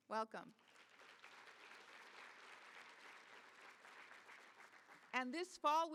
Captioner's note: applause